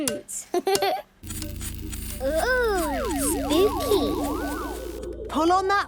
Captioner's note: pulsing